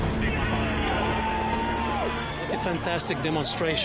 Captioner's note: enthusiastic cheering